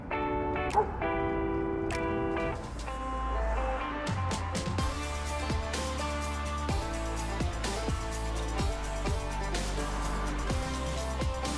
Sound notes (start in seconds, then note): 0.7 dog barking; 4.1 upbeat music